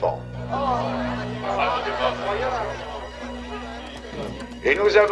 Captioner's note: reporters clamoring